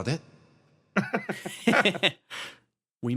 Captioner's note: laughs